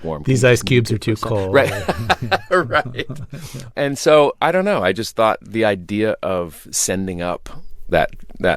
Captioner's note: laughter